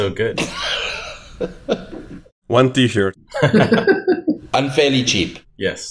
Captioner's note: chuckles